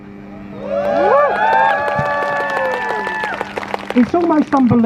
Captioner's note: crowd cheers